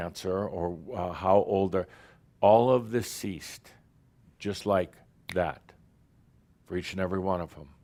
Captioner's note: snap!